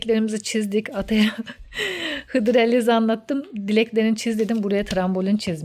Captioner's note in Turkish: kahkaha